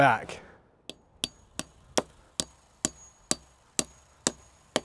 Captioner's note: hammer clanging